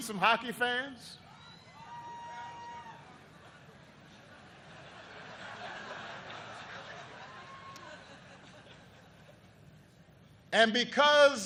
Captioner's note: laughter